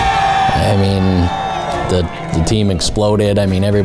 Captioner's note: people cheering